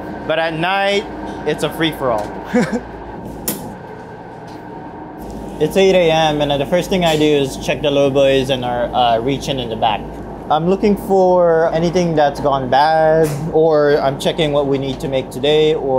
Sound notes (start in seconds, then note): 2.4 laughs; 3.2 door clicks